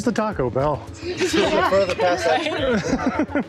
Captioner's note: laughter